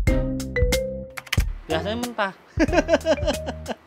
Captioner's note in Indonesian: tertawa